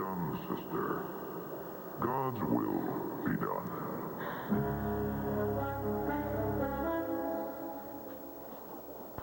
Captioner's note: distorted voice